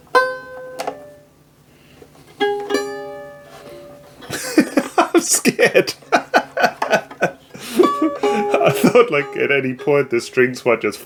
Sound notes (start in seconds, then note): 4.2 laughter